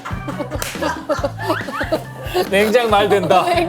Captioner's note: gasping